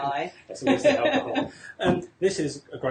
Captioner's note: laughing